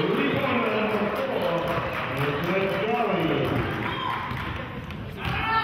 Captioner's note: clapping